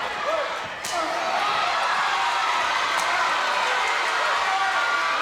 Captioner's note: crowd cheering